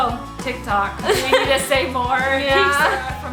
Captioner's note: laughs